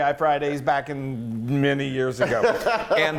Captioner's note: laughing